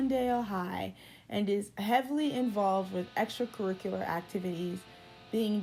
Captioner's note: Angela Li voice